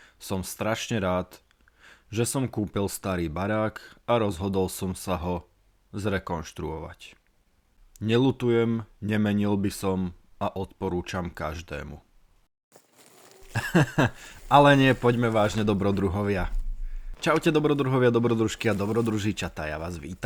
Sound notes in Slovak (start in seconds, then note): 13.5 smiech